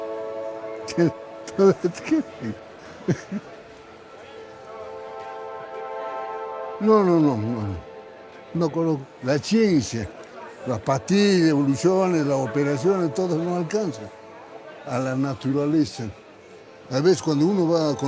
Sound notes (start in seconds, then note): 1.4 laughs; 8.0 speaking Spanish